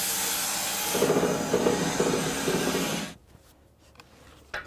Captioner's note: saw rolling